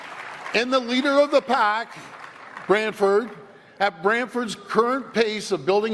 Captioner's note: applause